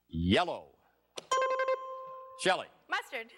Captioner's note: bing